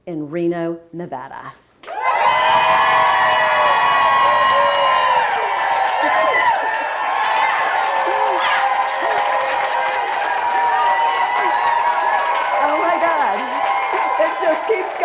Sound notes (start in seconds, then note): 1.8 cheers